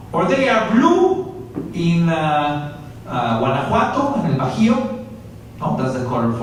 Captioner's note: spanish; spanish